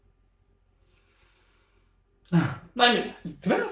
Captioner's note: sighs